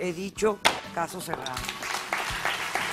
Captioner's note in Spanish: aplausos